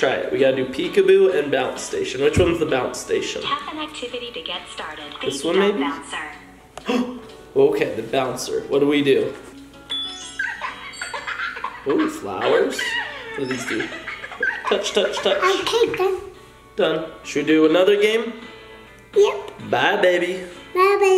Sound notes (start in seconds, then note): 7.0 gasp; 10.3 baby giggling